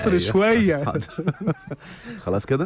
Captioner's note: laughter